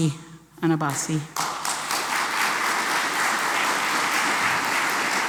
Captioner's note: applause